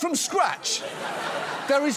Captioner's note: audience laughs